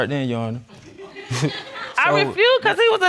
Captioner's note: audience laughing